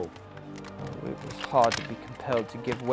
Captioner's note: voiceover